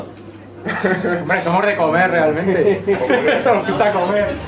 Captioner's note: laughter